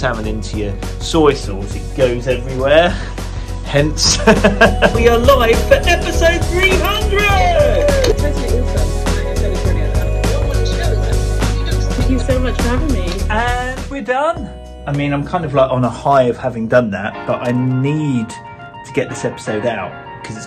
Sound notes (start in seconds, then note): 4.1 chuckling; 8.0 people cheering